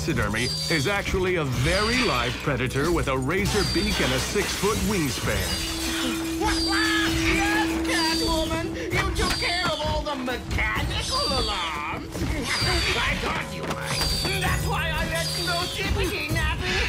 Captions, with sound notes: is actually a very live predator with a razor beak and a 6-foot wingspan. - [quacking laughter] Yes, Catwoman. You took care of all the mechanical alarms. [cackles] I thought you might. That's why I let Ossipity nap in here.